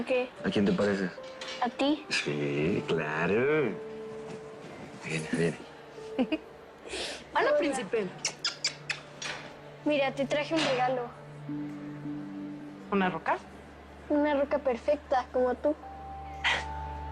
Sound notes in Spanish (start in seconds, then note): 6.1 Risas